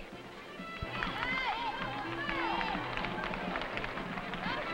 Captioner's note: crowd cheering